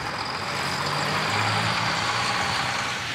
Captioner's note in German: Motorenbrummen